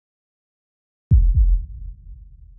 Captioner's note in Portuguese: som de batimentos cardíacos